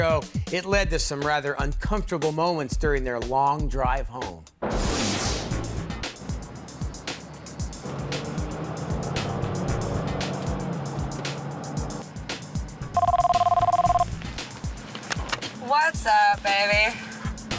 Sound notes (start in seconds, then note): 4.3 energetic music; 7.5 engine revving; 12.9 phone ringing